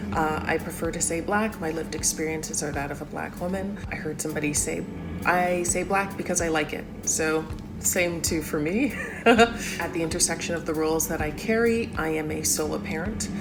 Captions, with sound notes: I prefer to say black, my lived experiences are that of a black woman. I heard somebody say, 'I say black because I like it,' so same too for me. (LAUGHS) At the intersection of the rules that I carry, I am a solo parent,